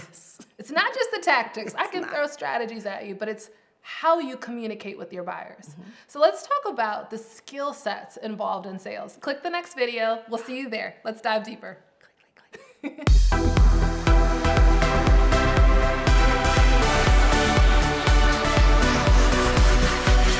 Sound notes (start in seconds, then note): 12.9 laughs; 13.0 upbeat music